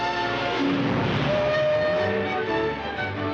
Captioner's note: horn toots